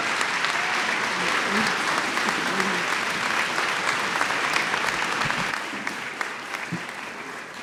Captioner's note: applause